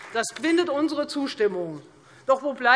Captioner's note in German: Beifall Freie Demokraten